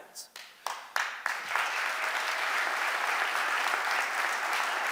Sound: audience applauding

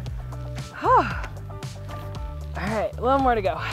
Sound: sighs

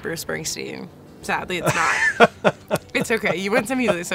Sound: laughs

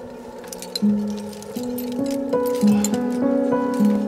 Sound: metal rattling; breathes heavily

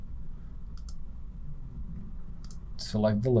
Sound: clicking

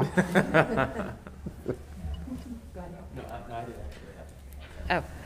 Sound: members laughing

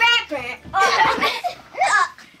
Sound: laughing

